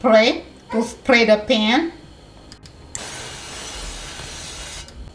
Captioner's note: oil spraying